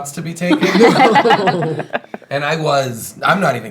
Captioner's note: laughing